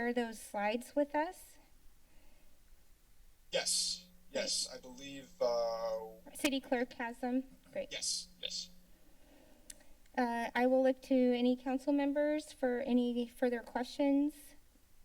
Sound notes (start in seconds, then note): 1.9 pause; 9.7 tongue clicking; 14.8 silence